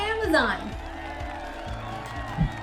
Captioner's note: applause